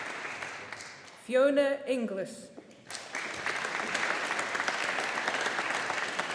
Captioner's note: audience applauding